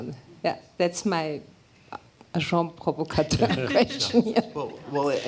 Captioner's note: non-english speech